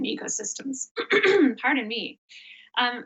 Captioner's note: coughs